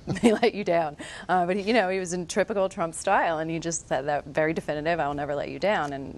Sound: chuckles

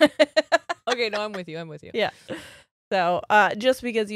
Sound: both laughing

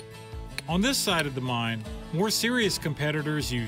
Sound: none

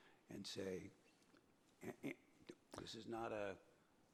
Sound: clears throat

